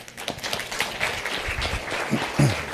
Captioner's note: applause